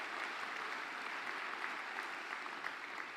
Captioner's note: applause